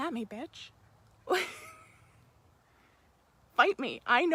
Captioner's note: laughs